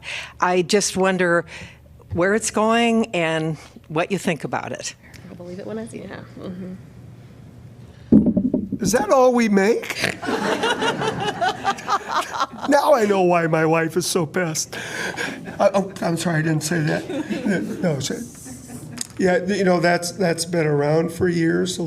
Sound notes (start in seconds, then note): 10.0 laughter